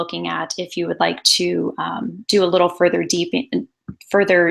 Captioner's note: stammers